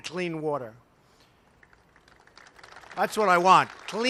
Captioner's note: applause